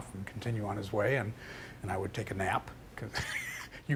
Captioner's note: laughing